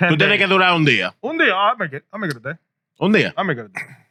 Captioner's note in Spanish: Hablando en idioma extranjero